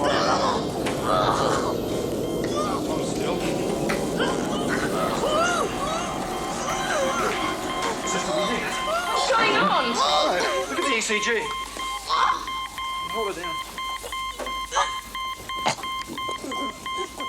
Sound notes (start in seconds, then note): 0.0 student gurgling; 4.0 student gurgling; 11.5 ECG beeping; 14.7 ECG beeping